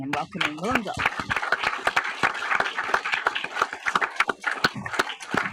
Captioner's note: audience applauding